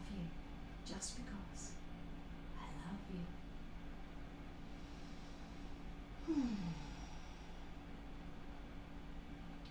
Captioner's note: deep breath in, and out